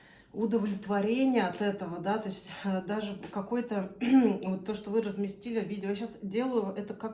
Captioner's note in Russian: откашливается